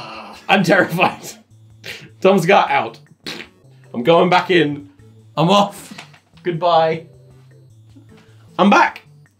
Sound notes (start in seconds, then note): 1.8 laughs; 3.2 blows raspberry